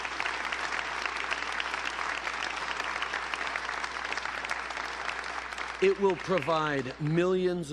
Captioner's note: applause